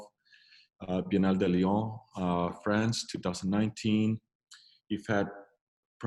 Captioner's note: speaks in foreign language